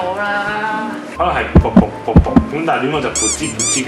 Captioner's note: pretending the sounds of normal heart beat